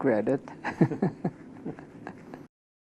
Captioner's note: laughs